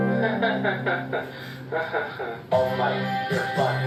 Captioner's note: nervously chuckles